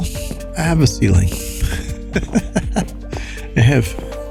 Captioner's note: laughs